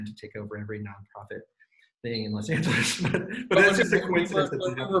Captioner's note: laughs